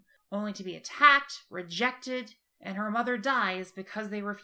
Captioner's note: none